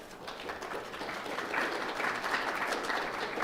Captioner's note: applause